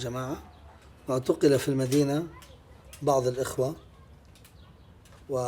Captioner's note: speaking in Arabic